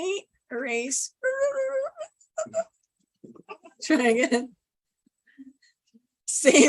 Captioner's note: squeaking